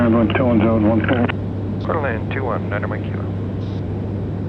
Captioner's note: engine idling